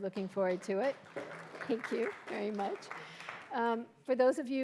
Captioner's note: audience applauding